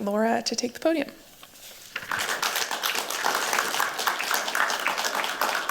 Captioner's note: applause